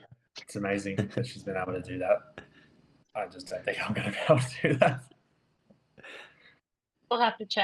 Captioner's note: chuckles